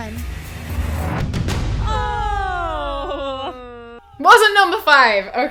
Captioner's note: drum sounds; oohing